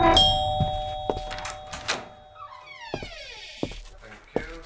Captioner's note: door opens